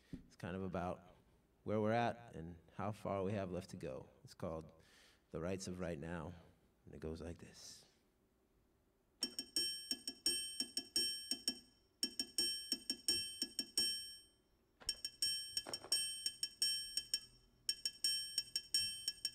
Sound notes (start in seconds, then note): 9.2 ring, ring, ting, ring, ring, ting; 11.9 ring, ring, ting, ring, ring, ting; 14.9 ring, ting, ring, ting recorded and playing on a loop